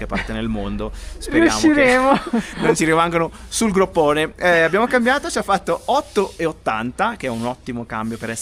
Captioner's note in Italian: risate